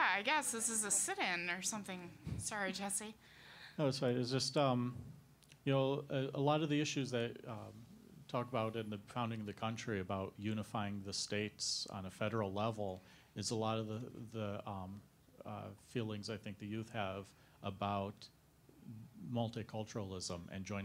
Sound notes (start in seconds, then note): none